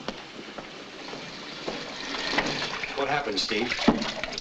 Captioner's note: water running